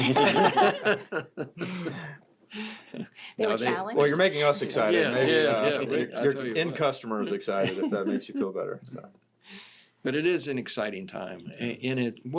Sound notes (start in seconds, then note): 0.0 everyone laughs; 4.6 people laughing